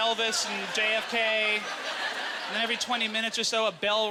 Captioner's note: audience laughter